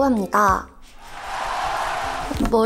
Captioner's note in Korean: 짝짝 / 짝짝